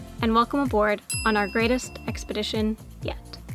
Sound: bell ringing

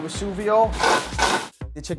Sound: pan clangs

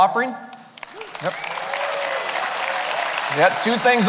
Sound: cheering

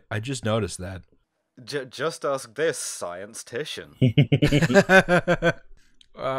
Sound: laughter

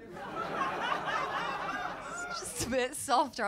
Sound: laughter

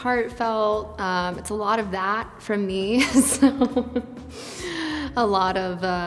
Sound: laughs

